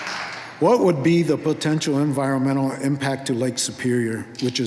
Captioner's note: applause